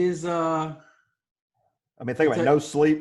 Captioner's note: none